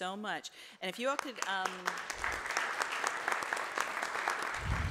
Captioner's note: audience applauds